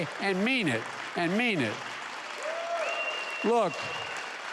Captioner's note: applause